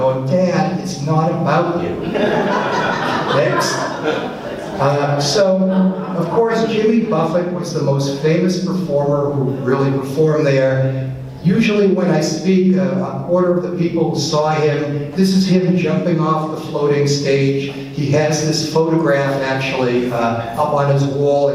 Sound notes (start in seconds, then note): 1.7 audience laughs